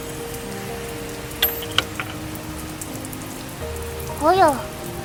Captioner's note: cling